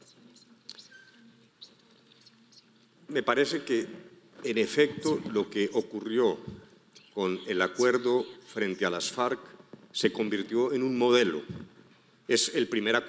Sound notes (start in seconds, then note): 3.3 speaking in foreign language